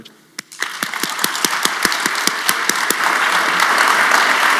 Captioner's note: audience applauding